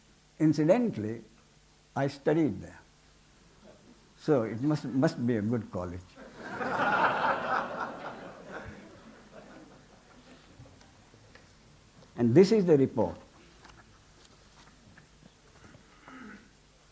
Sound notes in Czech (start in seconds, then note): 6.2 smích